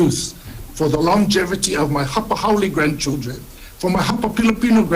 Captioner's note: speaks Hawaiian